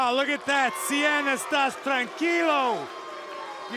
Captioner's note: speaking in foreign language